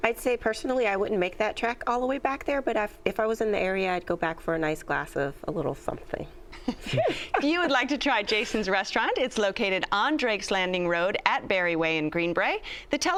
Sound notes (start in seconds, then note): 6.6 chuckles